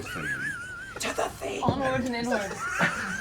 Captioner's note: whispering